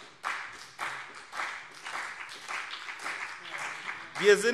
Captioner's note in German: Beifall CDU und BÜNDNIS 90/DIE GRÜNEN